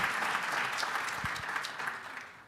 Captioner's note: applause